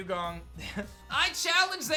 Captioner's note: giggles